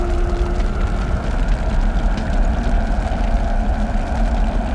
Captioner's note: swooshing